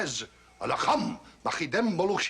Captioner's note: speaking Egyptian